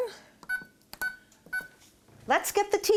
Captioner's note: beeping